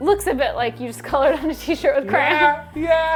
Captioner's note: laughing